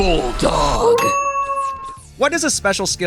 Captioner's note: howling